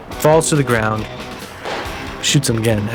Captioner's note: gunshot